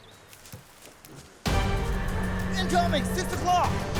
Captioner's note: leaves crunching